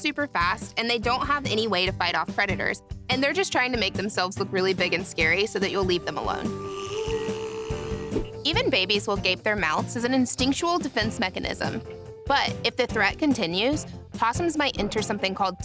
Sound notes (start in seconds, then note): 6.5 opossum growls